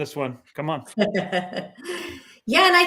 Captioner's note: chuckling